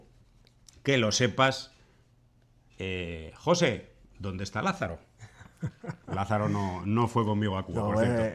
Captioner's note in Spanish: risas